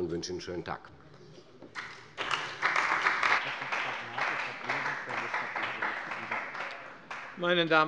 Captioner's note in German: Beifall bei der CDU und dem BÜNDNIS 90/DIE GRÜNEN